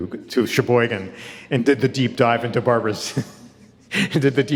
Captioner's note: chuckles